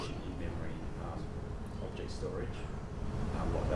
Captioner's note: voiceover